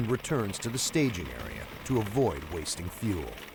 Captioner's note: voiceover